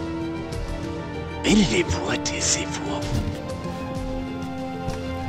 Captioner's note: Moses whispering